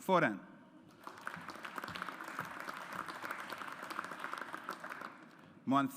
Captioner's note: audience applauds